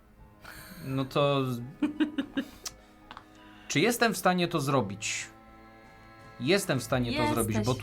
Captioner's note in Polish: śmiech